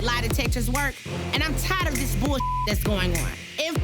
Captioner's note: beep